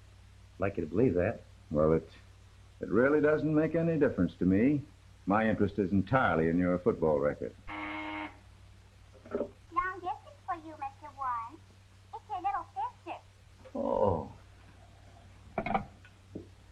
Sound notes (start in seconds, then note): 7.7 buzzer rings